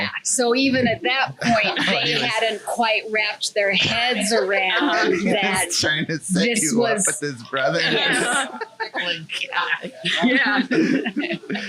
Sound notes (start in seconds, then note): 9.1 laughs